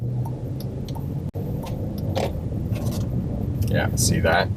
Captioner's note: car signal clicking